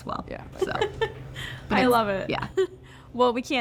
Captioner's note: laughing